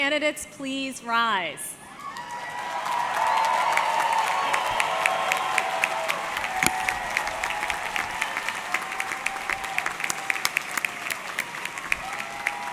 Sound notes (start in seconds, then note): 2.3 audience cheering; 3.4 audience clapping